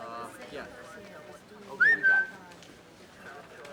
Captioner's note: whistling